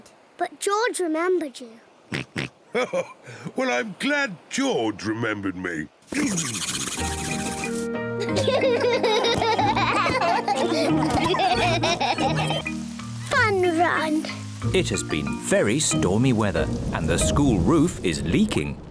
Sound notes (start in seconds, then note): 2.0 oinks; 2.7 chuckles; 6.1 spluttering